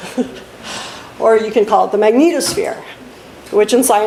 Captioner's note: laughs